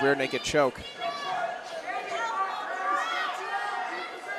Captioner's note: audience cheering